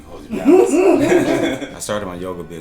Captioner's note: laughter